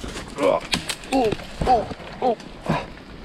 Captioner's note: grunting